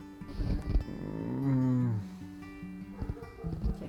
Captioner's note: groaning